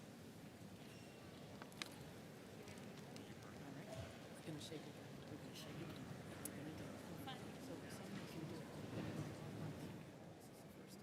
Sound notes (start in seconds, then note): 5.1 crowd chattering